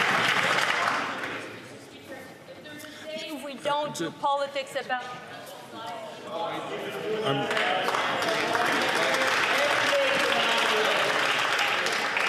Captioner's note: some Applause